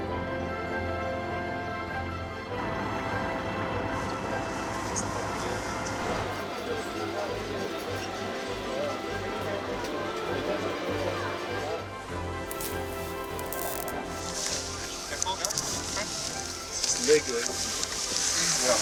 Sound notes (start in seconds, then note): 12.4 animal prod buzzes; 15.2 indistinct conversation